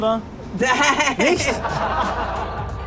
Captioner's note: laughs